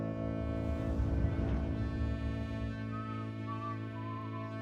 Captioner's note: Tom whistling